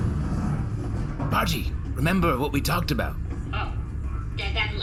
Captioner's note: hatch shuts